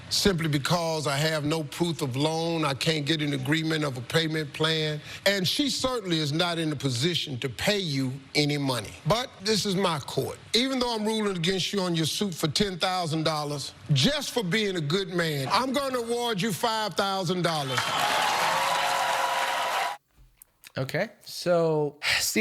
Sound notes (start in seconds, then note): 17.6 crowd cheering and clapping